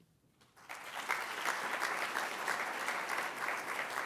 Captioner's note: applause